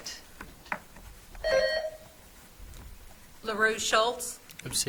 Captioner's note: buzzer trills